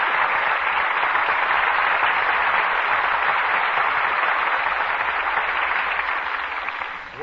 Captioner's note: applause